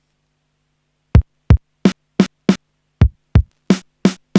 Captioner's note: silence